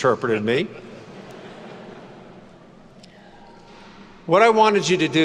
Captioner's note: students laugh